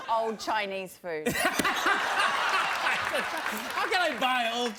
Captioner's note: laughs